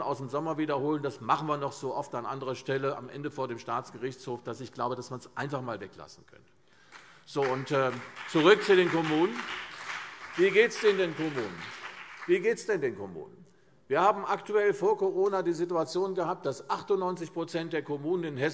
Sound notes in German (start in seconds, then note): 7.3 Beifall CDU und BÜNDNIS 90/DIE GRÜNEN